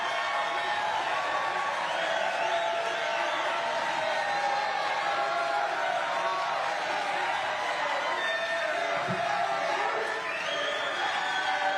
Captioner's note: cheers and applause